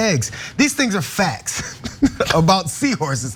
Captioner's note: laugh